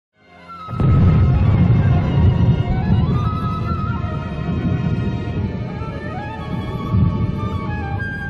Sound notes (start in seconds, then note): 0.2 somber music; 0.7 atomic Bomb blasting